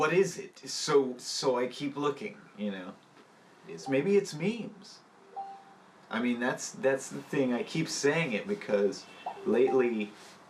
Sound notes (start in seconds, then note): 5.3 notification ping